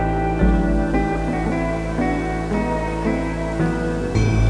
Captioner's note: vacuum humming